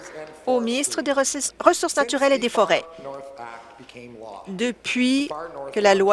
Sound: applause

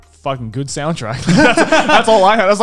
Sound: men laughing

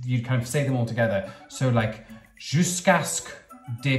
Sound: speaking in foreign language

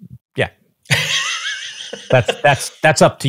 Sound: laughing

